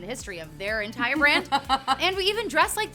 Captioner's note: laughing